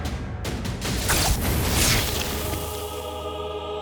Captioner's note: zapping